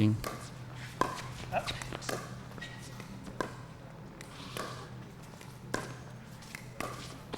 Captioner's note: shoes squeaking; ball being hit